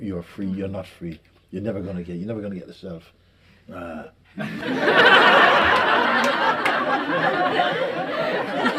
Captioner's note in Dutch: gelach